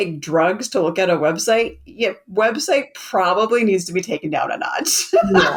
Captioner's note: laughs